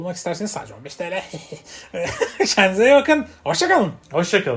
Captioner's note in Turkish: kahkaha